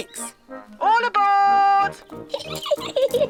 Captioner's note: giggling